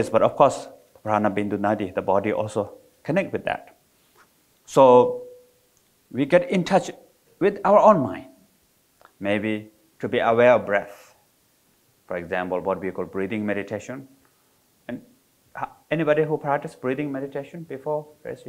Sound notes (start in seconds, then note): none